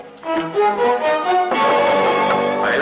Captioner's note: knock on door